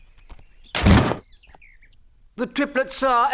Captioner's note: door slamming